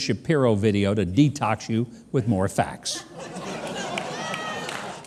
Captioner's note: audience laughing